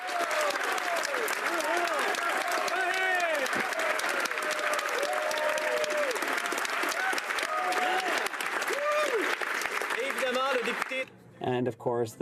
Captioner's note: some Applause